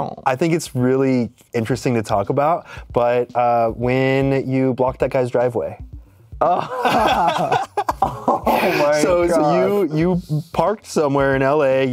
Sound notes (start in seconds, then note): 6.4 both laugh